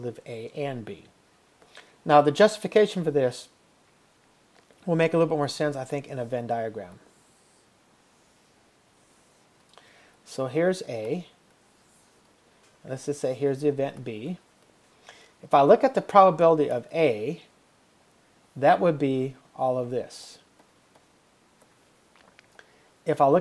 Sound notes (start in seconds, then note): 6.6 silence